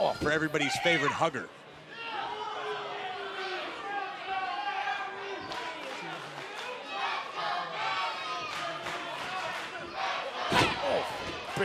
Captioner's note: crowd cheering